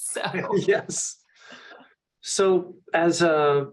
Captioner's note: laughs